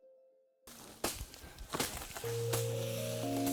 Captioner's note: cutting tool thwacking; gentle music